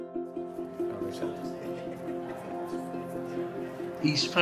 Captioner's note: chattering